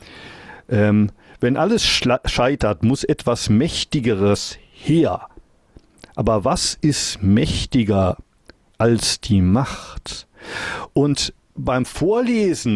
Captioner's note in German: japst